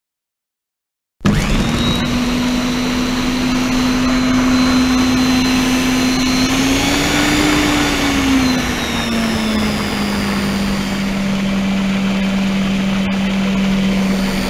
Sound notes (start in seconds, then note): 1.2 sound of blender